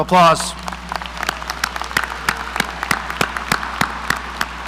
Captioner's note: audience applauding